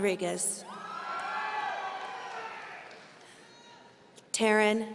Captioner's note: audience cheering